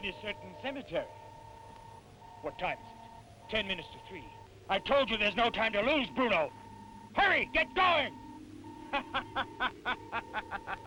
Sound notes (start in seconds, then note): 8.8 laughing